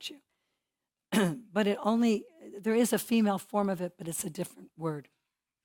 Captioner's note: cough